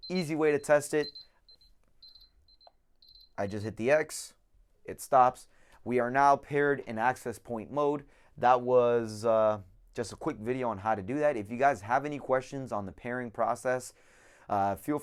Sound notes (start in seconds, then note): 2.0 beeping